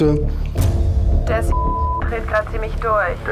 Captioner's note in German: Piepsen